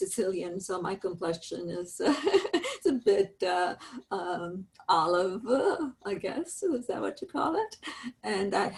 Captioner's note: laughs